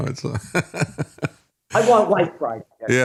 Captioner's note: laughing